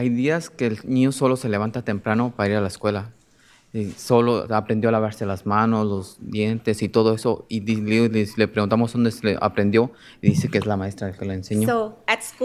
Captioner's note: speaking in spanish